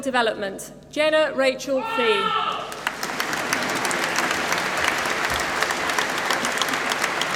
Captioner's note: applause